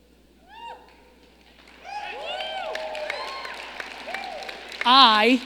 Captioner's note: audience applauding